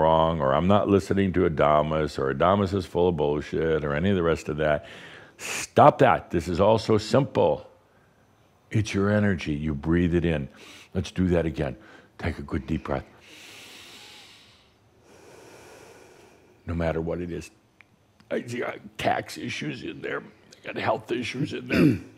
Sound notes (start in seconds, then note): 13.1 Adamus takes a deep breath